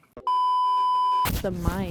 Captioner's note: beep